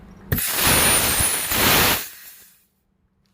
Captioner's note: releasing gas